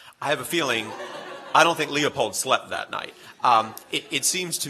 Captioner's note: laughters